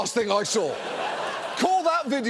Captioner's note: audience laughs